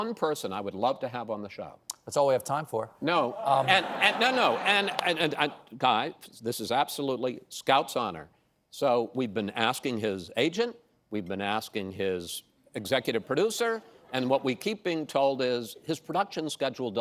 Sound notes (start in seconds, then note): 6.2 laughter